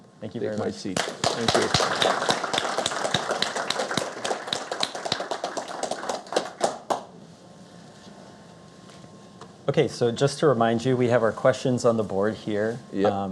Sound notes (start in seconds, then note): 4.2 applause